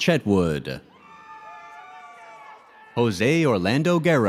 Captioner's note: audience cheers